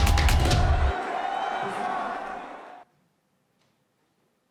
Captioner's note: crowd cheering